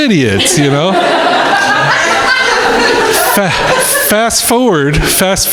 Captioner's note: crowd laughing